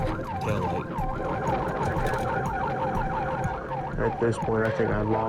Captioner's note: police siren